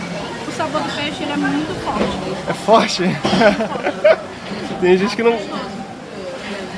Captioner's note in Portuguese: risadas